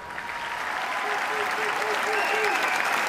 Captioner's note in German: Applaus, Jubel